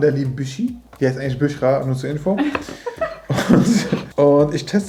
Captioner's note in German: lacht